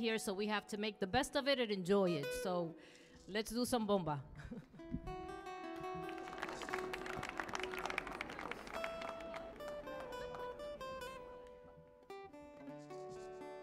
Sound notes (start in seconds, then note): 5.7 light music; 5.7 audience clapping